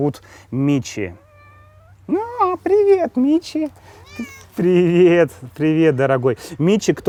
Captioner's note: meows